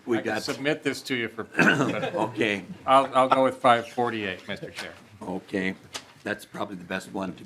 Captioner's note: laughing